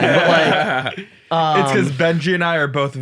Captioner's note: laugh